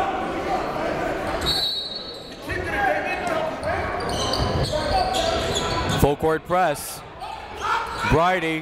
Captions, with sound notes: (whistle blows) Full court press.